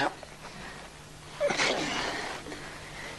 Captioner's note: grunts